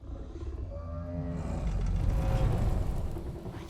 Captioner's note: grunt